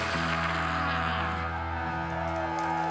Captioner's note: cheering, applause